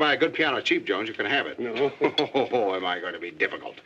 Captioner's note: laughing